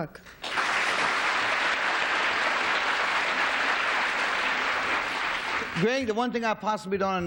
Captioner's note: applause